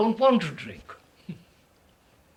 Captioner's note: laughs